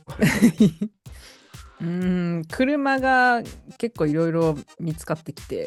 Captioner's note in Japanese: 笑い